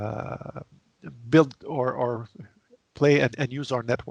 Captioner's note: stammering